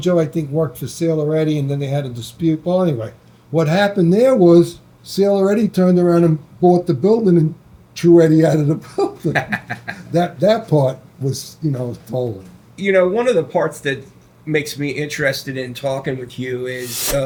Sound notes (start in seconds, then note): 9.3 laughs